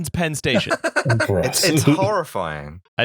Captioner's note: laughter